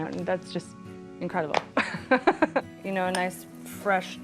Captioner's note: laughs